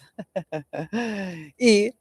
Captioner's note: laughter